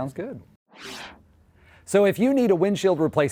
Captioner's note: whoosh sound